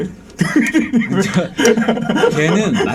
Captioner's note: laughing